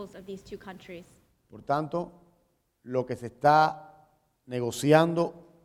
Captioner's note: speaking in Spanish